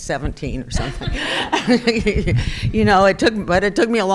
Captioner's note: crowd laughing